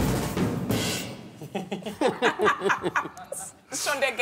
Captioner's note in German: Sie lachen